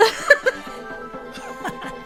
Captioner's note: laughing